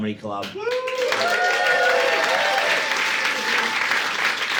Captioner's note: audience cheering